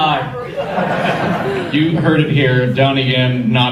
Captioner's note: audience laughter